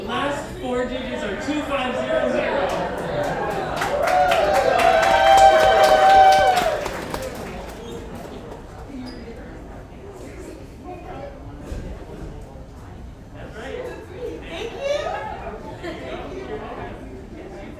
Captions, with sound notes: The last four digs are 2500. (audience applauds) Great. - Thank you, thank you.